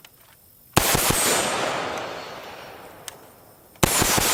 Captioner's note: gunshots firing